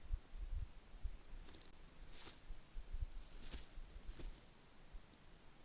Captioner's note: Kākāpō footsteps